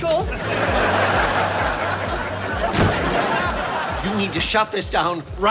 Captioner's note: audience laughs